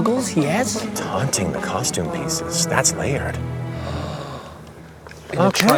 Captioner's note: gasps softly; applause